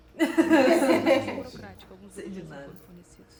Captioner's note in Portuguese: Risos